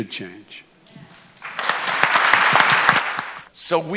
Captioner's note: applause